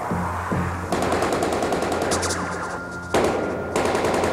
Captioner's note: guns firing